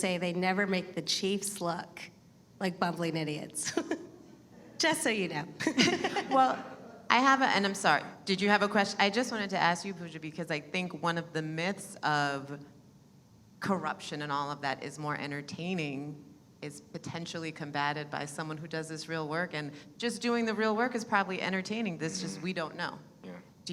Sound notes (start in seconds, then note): 5.6 laughs; 5.7 audience laughing